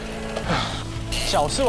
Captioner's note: panting